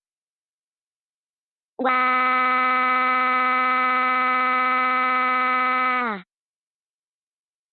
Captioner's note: Pico cries